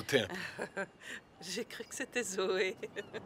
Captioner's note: laughs